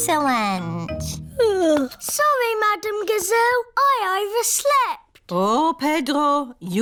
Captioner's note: yawns